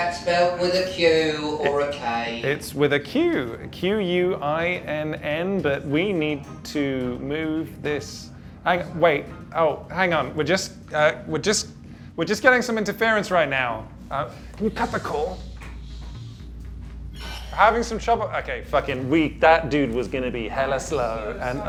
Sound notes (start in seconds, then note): 14.7 in a lower voice